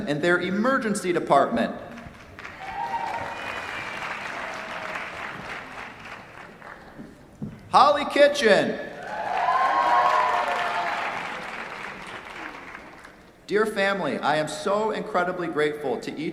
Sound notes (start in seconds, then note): 1.9 applause; 8.9 cheers, applause